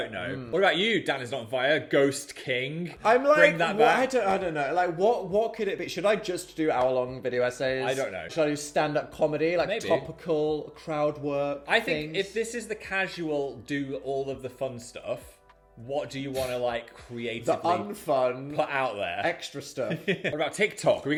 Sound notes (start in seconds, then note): 16.6 scoffing; 19.8 chuckles